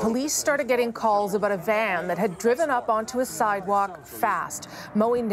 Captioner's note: sirens